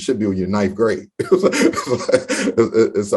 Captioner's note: laughs